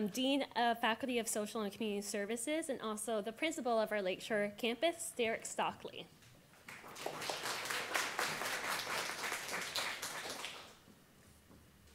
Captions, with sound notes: Dean of Faculty of Social and Community Services and also the principal of our Lakeshore Campus, Derek Stockley. [audience applause]